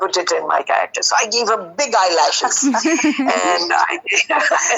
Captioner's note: both giggling